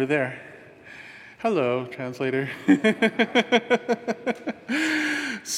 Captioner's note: laughs